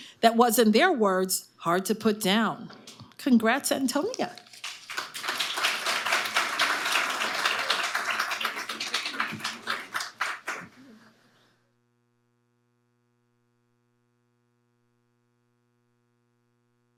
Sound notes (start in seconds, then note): 4.4 audience applauding